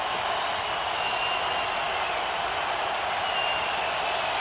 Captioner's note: cheering